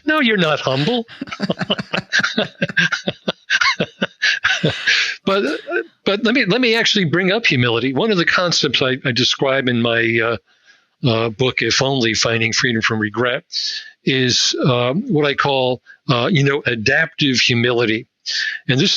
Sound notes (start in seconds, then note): 0.4 both laughing